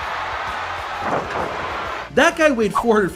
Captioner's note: crowd clamoring; body thuds